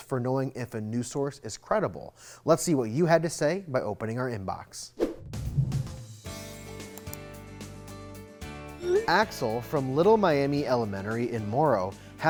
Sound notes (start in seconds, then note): 5.0 air whooshes; 5.3 upbeat music; 6.9 computer mouse clicks